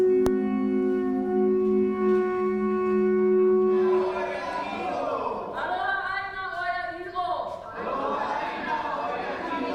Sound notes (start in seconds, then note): 4.7 shouting